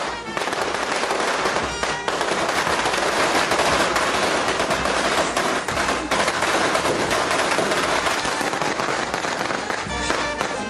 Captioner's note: firecrackers